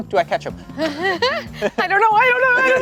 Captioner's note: chuckling